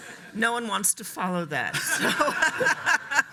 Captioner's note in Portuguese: laughs